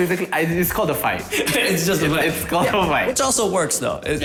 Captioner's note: laughs